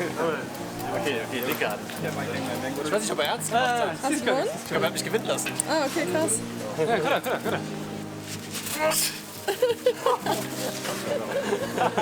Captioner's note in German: gelächter